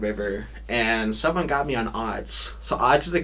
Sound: none

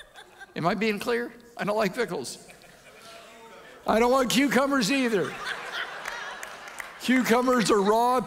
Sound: audience laughs

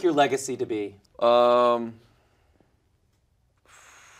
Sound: blowing

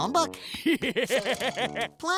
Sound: laughing

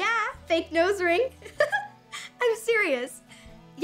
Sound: giggling

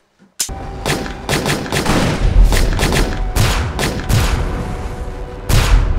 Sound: intense music; gunshots booming

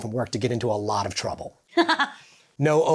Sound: laughing joyously

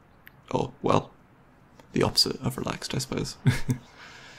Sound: laughs

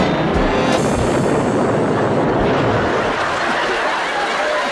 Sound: explosion; applause

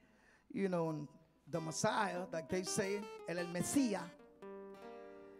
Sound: speaking in Spanish

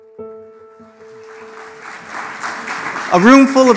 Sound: audience clapping

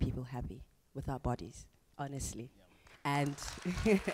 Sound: audience applause

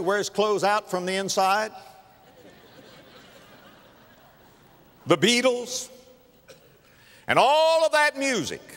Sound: audience laughter

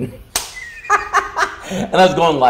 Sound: laughing

